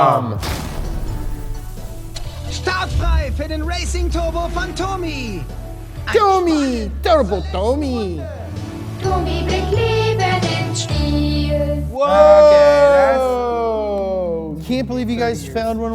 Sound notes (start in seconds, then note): 0.1 gentle music; 2.6 voiceover; 8.7 playful music